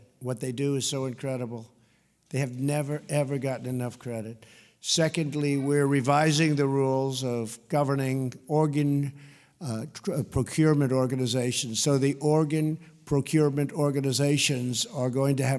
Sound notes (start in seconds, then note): none